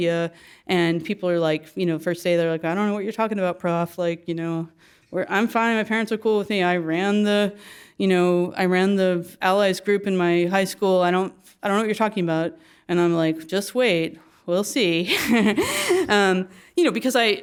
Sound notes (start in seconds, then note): 15.1 laugh